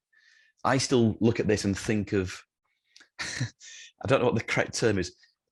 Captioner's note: chuckles